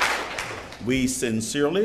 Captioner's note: applause